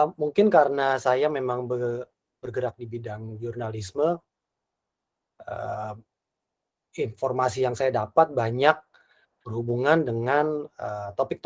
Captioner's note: non-english speech